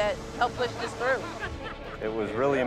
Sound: man laughing

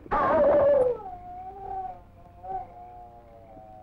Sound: dog howling

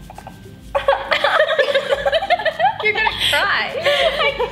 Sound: laughter

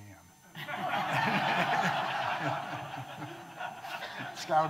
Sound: audience laughing

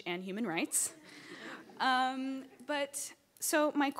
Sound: laughing

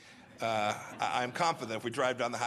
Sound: laughter

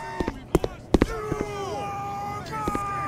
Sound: U.S. Marine noises

